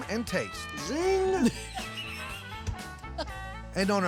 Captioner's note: laughter